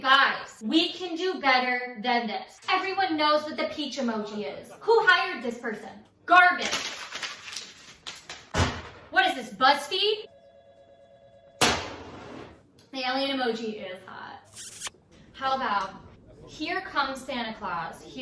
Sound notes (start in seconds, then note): 11.6 slams glass